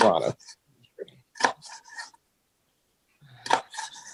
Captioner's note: knife scraping